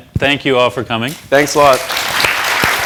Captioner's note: applause